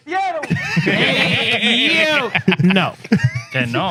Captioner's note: laughing; speaking In Foreign Language